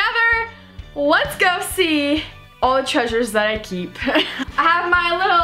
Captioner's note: laughs